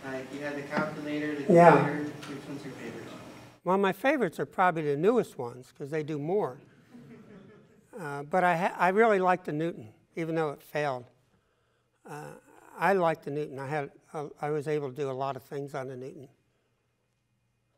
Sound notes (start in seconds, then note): 2.8 voiceover; 6.8 audience laughs